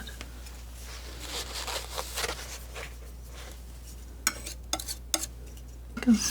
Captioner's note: scratching